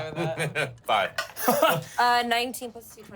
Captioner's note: laughs; laughs ruefully